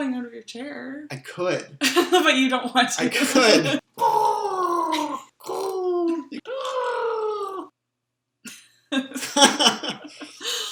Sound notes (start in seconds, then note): 3.1 laughing; 3.9 cooing repeatedly; 8.5 laughing